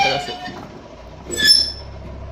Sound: criiiikkkk

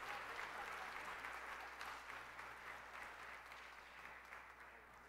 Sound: applause

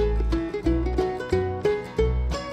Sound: none

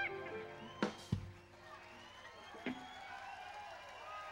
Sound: crowd applauding

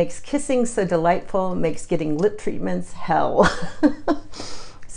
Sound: laughs

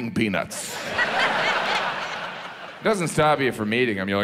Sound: audience laughs

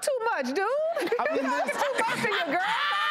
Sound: audience and panelists laugh

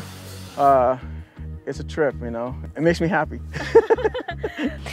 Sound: laughs

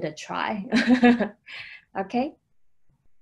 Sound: laughing

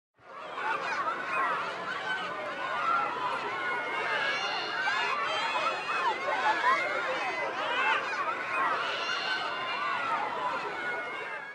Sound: loud chattering in background

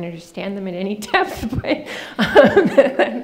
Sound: laughing

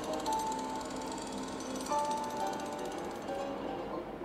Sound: foreign language; drilling noise

